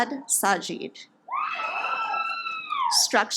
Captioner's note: audience applauds